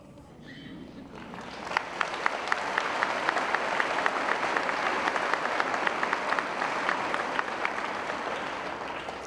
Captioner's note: applause